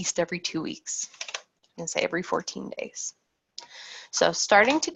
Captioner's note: keyboard keys clacking